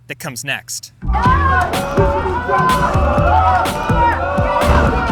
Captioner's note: cadets yelling